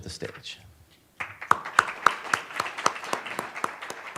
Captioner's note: applauding